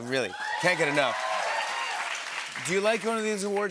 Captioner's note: cheering and applause